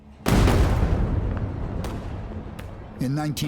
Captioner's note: gunshots blast